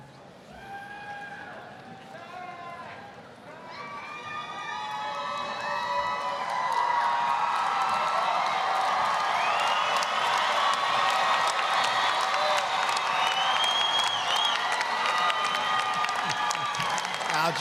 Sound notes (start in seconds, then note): 4.0 applause, cheering